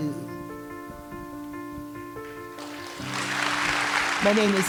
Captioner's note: applause